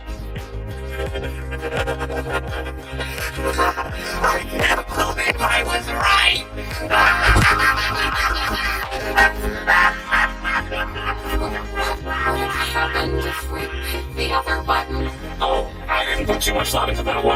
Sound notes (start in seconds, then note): 0.2 laughing manically; 6.9 laughing hysterically